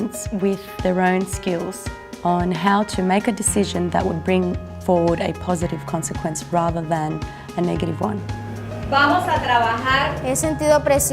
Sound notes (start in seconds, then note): 8.4 speaking spanish